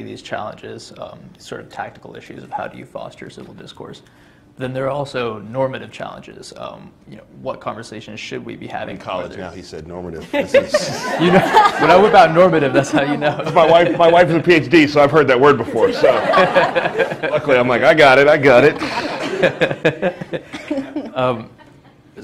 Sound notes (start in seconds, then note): 19.9 laughter